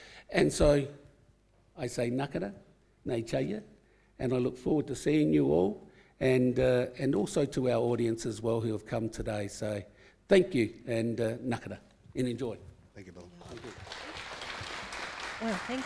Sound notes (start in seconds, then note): 13.4 audience applauding